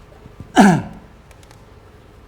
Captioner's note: clear the throat